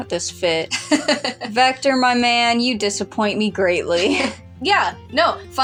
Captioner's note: laugh; chuckle